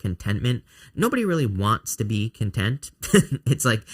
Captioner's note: chuckles